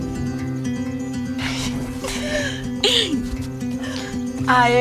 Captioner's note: laughs